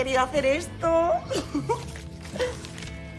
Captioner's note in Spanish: Risas